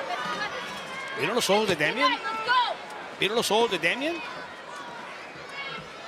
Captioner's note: commentators speaking Spanish